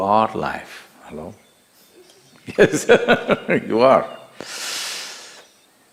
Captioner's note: laughs